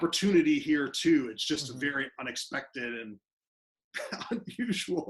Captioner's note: laughing